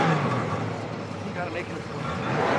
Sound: engine revving

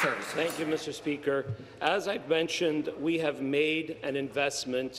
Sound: applause

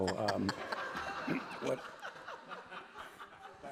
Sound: laughter

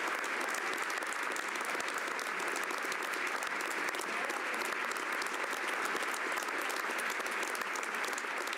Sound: some Applause

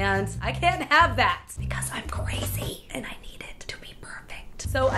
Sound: whispers

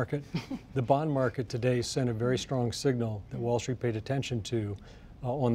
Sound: laughter

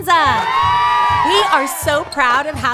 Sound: beach goers cheer

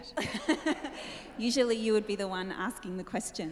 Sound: laughs

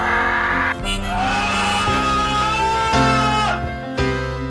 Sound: anger Cry

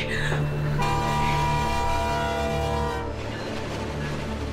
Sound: train horn blowing

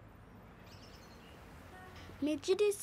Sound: birds chirping; in Twi

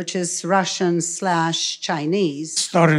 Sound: foreign language

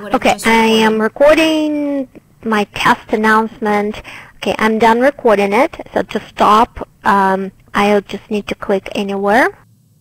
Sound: recorded announcement playing

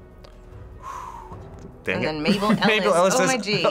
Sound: exhales

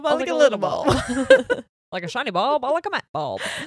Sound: both laugh

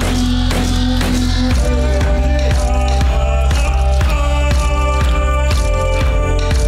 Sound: rhythmic music; foreign vocalizing

